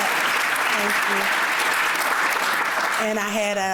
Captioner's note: applause